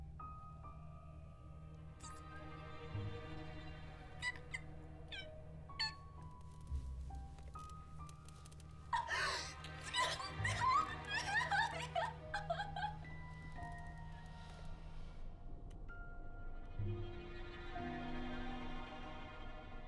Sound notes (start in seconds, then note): 2.1 Qi'an whimpers; 8.9 Qi'an sobs hysterically